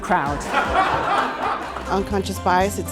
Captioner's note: audience laughing